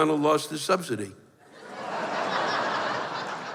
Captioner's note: laughter